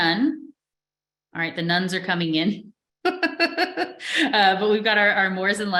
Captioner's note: chuckles